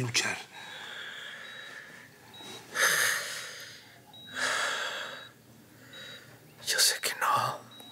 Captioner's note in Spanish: Inhala y exhala